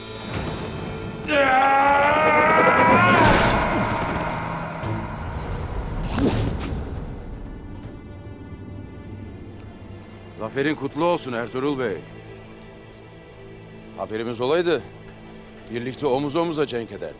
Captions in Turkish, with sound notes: Yaa! (Kılıç sesi) Zaferin kutlu olsun Ertuğrul Bey. Haberimiz olsaydı birlikte, omuz omuza cenk ederdik.